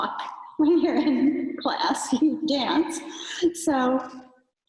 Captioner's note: giggles